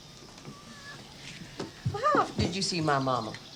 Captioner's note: cats mewing